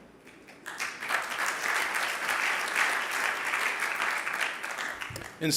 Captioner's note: audience applauding